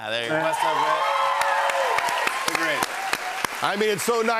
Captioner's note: cheers and applause